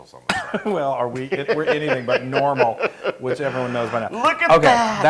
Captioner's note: laugh